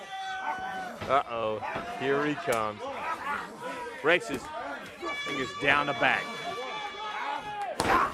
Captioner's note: crowd chatter